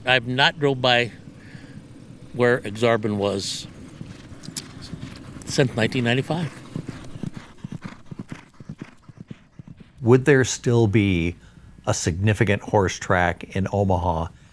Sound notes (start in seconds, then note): 6.8 footsteps clopping; 6.8 horse huffing